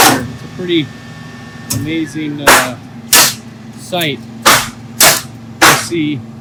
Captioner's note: nail gun firing